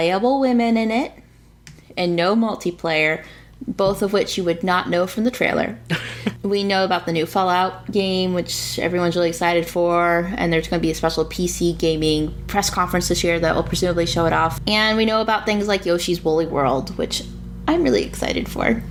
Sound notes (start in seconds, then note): 5.9 laughs